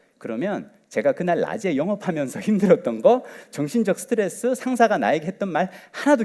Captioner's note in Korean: none